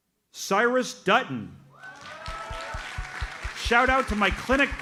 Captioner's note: audience cheers and applauds